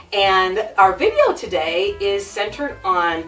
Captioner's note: none